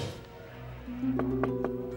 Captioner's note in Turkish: kapi tiklama sesi̇